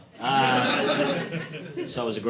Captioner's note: audience laughing